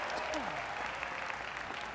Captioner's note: applause